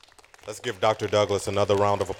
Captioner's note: applause